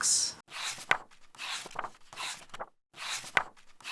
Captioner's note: pages turning